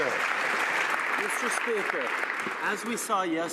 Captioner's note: some Applause